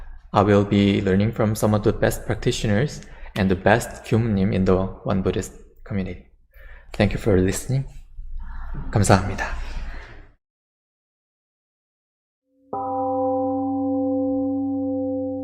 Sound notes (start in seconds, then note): 9.1 temple gong rings and fades